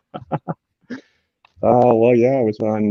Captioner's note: laughs